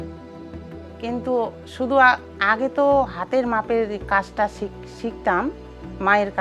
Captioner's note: speaking foreign language